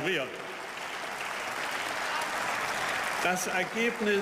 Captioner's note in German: Beifall